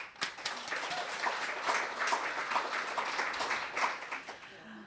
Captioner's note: audience applauding